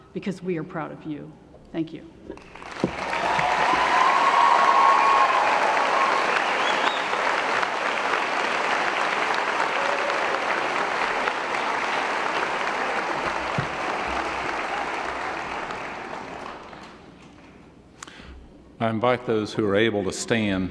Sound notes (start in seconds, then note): 2.4 cheering & Applause